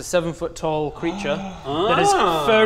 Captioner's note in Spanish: Grito ahogado